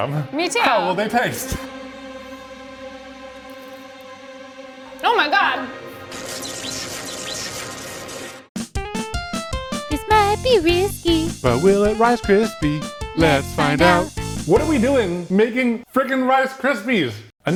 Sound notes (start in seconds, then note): 1.7 tense music; 6.1 electricity crackling; 8.6 upbeat music